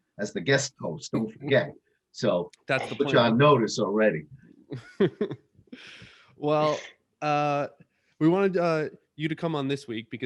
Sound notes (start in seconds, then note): 4.7 laughs